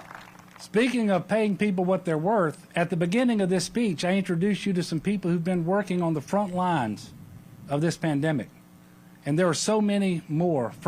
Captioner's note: applause